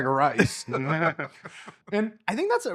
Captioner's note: laughing